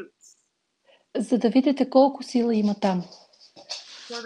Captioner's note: foreign Language followed by English Interpreter